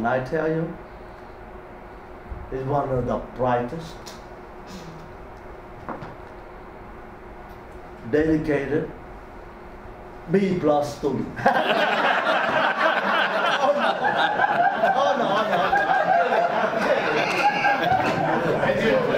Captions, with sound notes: And I tell you, he one of the brightest, dedicated B plus student. (audience laughs) No, I'm kidding, I'm kidding.